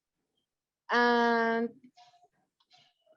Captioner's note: speaking foreign language